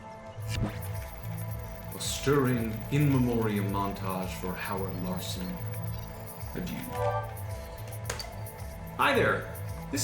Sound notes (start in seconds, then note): 6.9 keystroke, beep